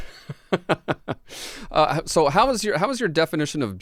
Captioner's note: both laughing